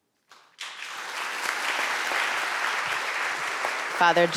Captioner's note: audience applauding